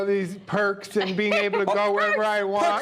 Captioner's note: laughter